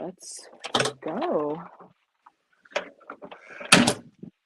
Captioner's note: door clicks